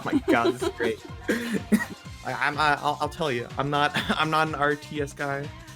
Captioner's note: laughs